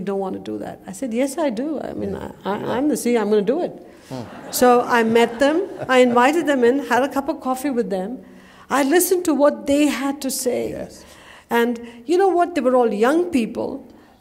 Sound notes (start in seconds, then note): 4.0 laughter